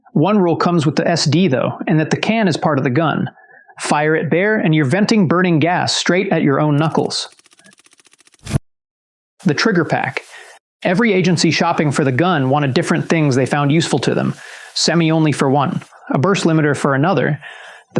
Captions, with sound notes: One rule comes with the SD, though, in that the can is part of the gun. Fire it bare, and you're venting burning gas straight at your own knuckles. [whoosh] The trigger pack. Every agency shopping for the gun wanted different things they found useful to them. Semi only for one, a burst limiter for another.